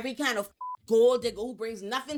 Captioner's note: beep